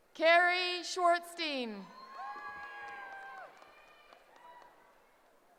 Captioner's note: cheering